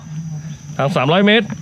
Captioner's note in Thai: เสียงหัวเราะ